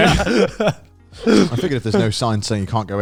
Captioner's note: laughs